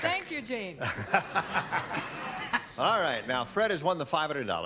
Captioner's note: laughs